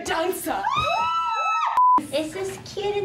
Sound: girls screaming; screen beep

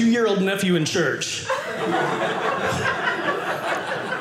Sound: audience laughing

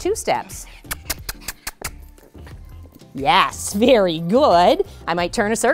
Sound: kissing sounds

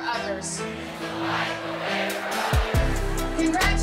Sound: crowd

